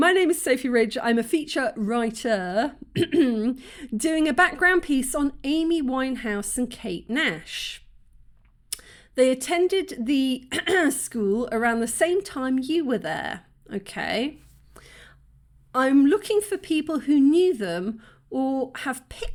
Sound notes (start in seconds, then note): 10.5 cough